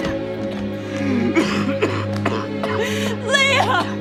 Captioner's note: Leo coughing